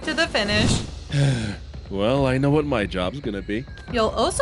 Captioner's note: sighs